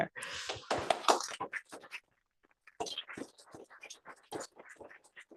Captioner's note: applause